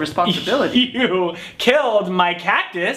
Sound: weak chuckle

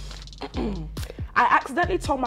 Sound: clears throat

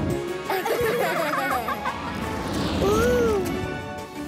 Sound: giggling

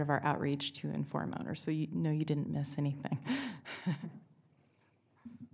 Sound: laughs

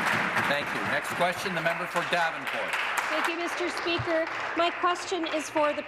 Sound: applause

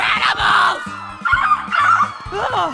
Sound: lizard alien noises

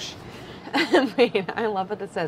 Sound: laughs

